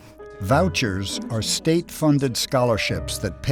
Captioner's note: voiceover